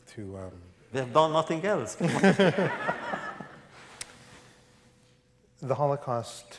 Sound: laughter

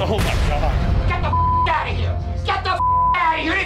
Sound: beep

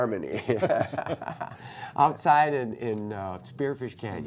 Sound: laughter

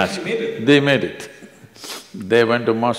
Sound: laughs

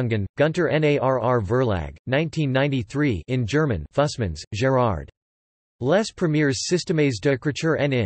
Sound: in German

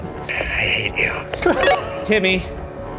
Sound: laughs

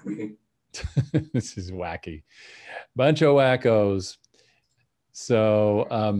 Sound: chuckles

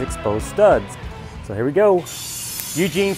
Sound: metal shearing

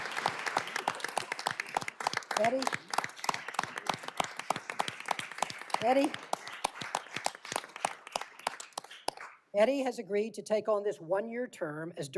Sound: applause

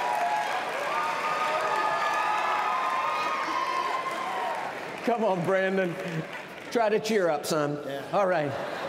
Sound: cheers and applause

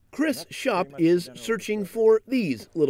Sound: voiceover

